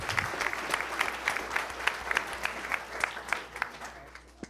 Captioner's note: attendees applauding